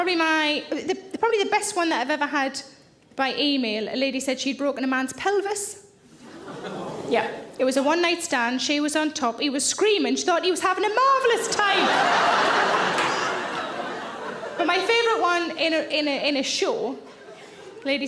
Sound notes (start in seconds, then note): 6.4 audience groan; 11.3 audience laughs